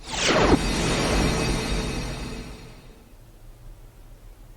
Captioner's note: wind whooshing